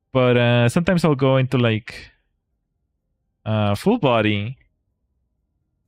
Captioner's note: none